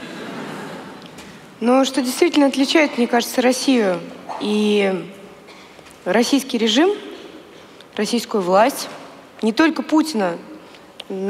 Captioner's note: foreign Language